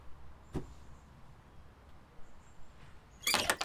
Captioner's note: sound of battery cover landing some distance away; shed door creaks open